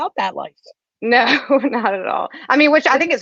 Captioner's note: chuckles